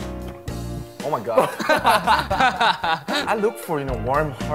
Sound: laughs

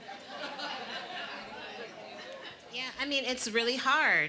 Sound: audience laughing

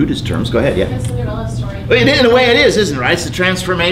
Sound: student off mic

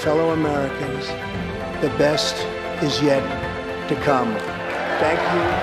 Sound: applause

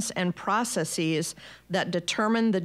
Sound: none

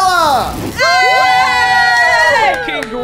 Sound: group cheers

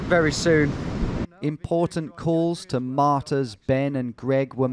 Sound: voiceover

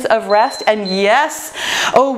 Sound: timer beeps

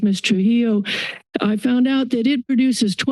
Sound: inhales

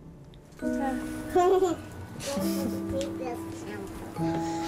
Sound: slow happy music; child laughter

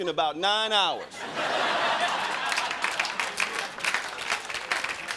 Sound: crowd laughing

